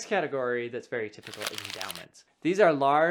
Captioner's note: paper rubbing